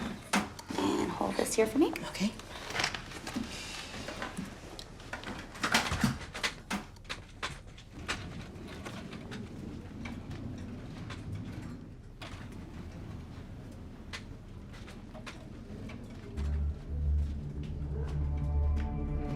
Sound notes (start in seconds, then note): 7.1 bed rustling softly; 16.3 tense music